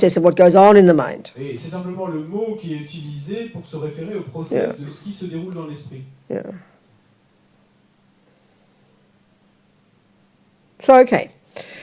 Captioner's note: French